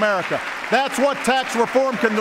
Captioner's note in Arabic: تصفيق